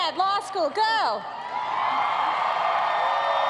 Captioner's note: cheers and applause